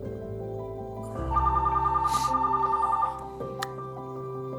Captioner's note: phone Rings